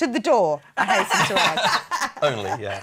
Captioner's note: laughing